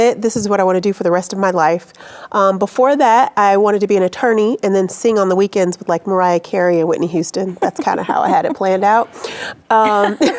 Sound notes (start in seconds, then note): 7.5 chuckling